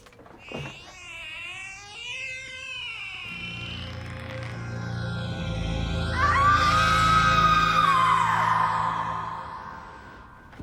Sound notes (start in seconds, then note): 0.1 door creaking open; 5.7 screams